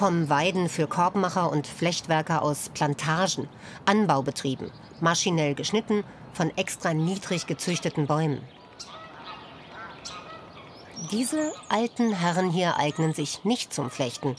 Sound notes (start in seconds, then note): 8.6 swans hoot